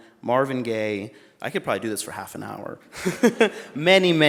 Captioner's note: laughs